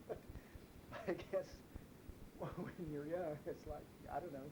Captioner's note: chuckles